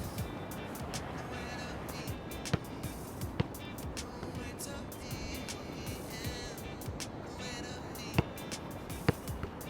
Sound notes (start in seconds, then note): 0.2 slow reggae music continues; 3.2 basketball thunks